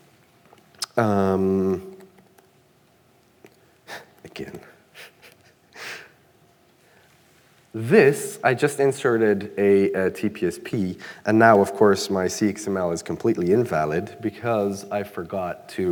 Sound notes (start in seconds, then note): 4.9 chuckling